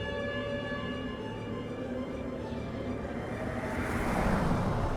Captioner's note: wind gusting